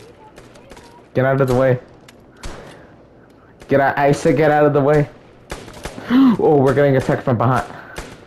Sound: gasps

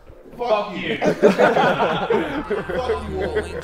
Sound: Sidemen laughing; upbeat music

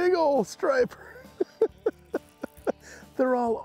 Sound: chuckling

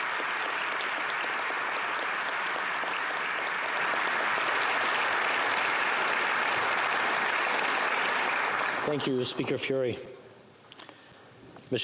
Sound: applause

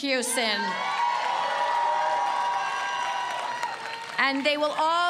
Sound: audience cheers

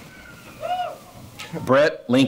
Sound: cheering

